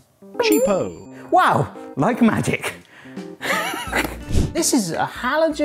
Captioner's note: laughs